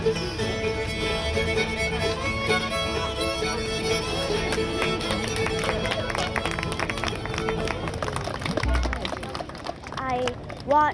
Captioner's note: applause